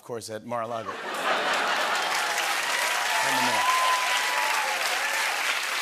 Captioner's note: cheers and applause